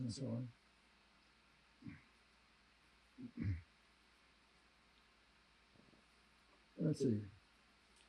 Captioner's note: pauses 6 seconds